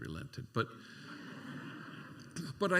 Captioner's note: laughter